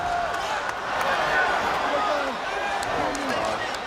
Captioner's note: crowd chatter